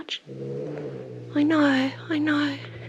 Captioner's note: growling